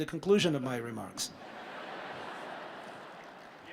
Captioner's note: laughter